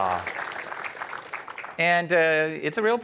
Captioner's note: applause